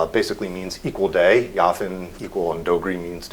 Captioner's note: non-english speech